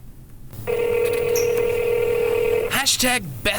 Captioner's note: phone ringing